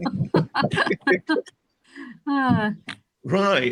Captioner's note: laughter